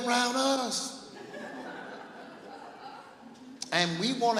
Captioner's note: laughing